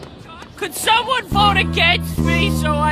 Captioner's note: echoing